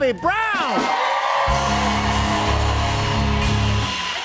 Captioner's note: cheers and applause